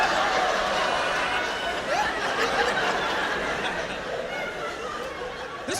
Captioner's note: laughter